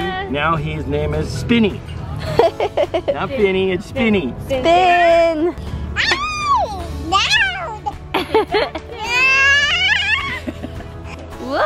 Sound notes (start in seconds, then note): 2.2 giggles; 5.7 squeals